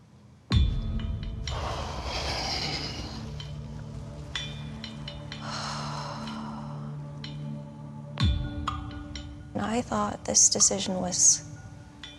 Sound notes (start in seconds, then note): 0.2 tense music; 1.5 breathes shakily; 5.3 sighs